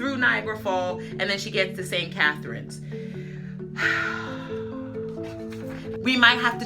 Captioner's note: sighs loudly